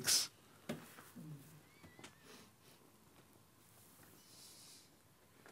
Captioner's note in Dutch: stilte